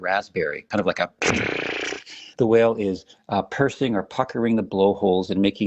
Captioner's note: lip trilling